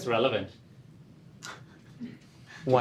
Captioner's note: laughter